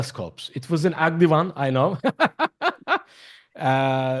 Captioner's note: laughs